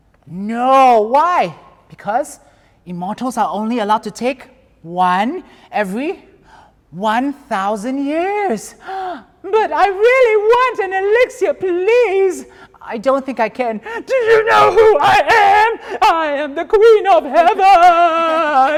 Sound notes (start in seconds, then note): 8.8 gasps